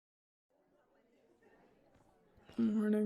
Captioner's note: soft chatting in the background